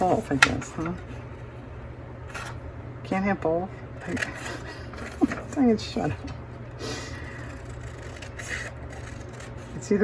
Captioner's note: laughs